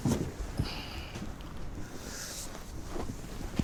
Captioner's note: none